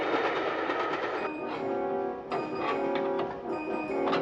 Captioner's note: lock scraping